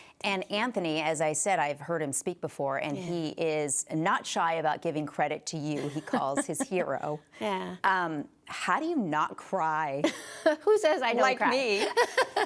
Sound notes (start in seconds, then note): 9.9 laughs